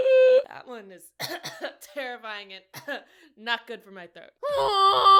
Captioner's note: cough cough; small cough